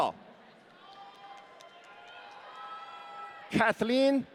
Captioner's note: audience cheering